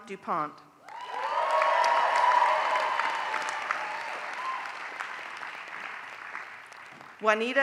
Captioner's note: applause